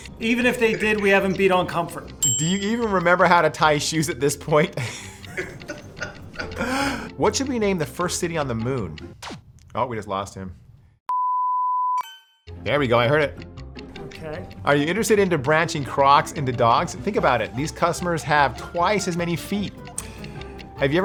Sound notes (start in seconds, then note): 4.7 laughs